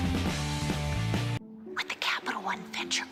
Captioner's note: whispering